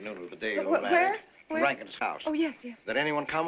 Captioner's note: stuttering